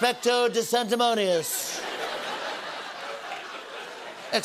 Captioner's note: laughter